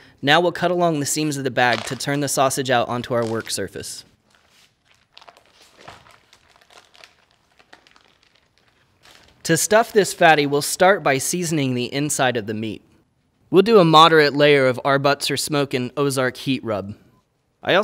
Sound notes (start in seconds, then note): 5.4 plastic peeling